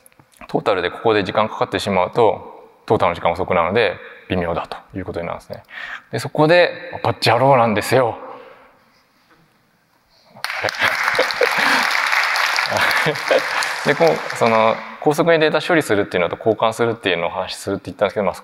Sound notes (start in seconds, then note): 10.4 applause; 12.6 chuckles